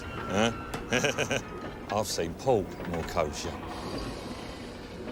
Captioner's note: laughs